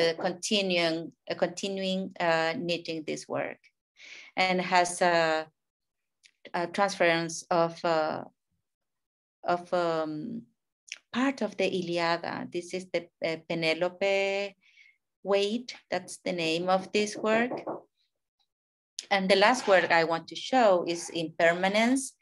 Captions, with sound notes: so is continual knitting this work. And has a transference of part of the (speaking in a foreign language). This is the (speaking in a foreign language) weight, that's the name of this work. (neighbor hammering) And the last work I want to show is "Impermanencia"